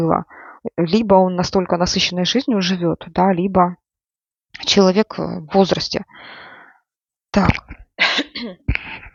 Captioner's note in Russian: откашливается